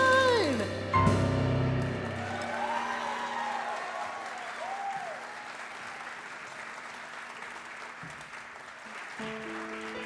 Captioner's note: audience applause